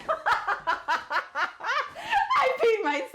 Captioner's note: laughter